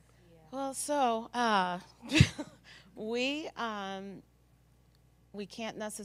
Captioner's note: laugh